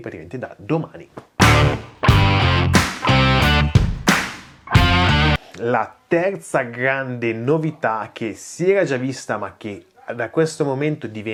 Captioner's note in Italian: Applauso